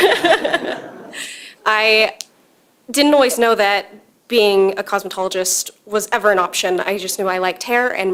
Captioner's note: laughter